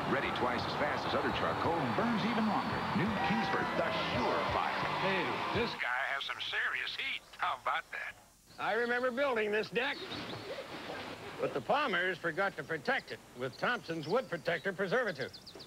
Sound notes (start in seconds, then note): 2.8 as crowd begins to cheer; 5.0 Announcer 2, over radio